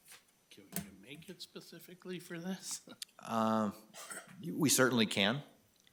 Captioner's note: laughing